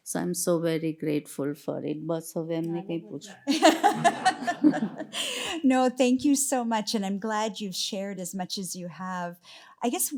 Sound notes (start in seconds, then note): 2.1 speaking gujarati; 3.4 laughter